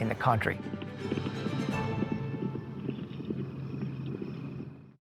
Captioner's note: hooves pounding